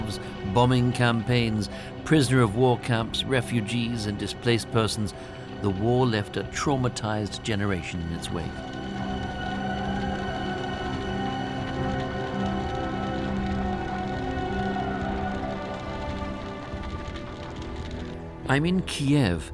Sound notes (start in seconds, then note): 8.7 haunting music; 12.2 fire crackles